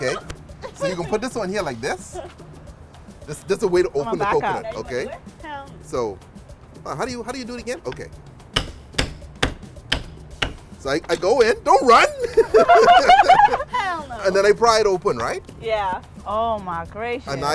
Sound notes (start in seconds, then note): 8.4 hammering; 11.7 laughter